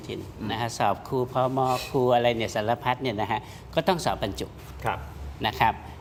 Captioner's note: takes a breath